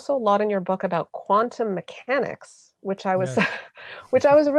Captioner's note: giggles